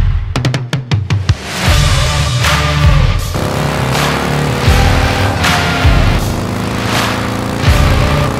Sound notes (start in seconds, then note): 3.6 motorcycle engine running